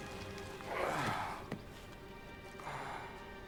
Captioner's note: sighing